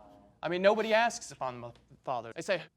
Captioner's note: sniffling